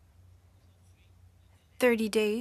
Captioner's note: speaking French